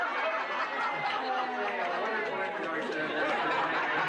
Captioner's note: crowd cheering